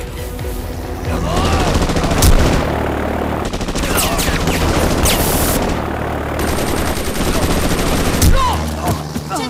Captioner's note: Rapid gunfire